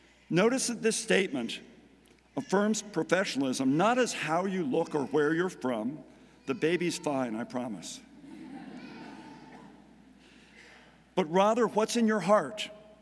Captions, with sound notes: Notice that this statement affirms professionalism, not as how you look or where you're from. (baby crying in background) The baby's fine, I promise. (audience laughing) But rather what's in your heart